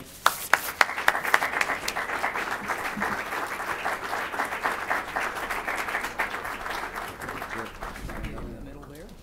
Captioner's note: applause